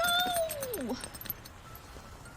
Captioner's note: sighshs